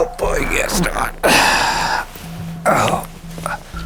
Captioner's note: grunts